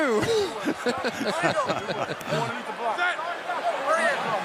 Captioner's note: laughter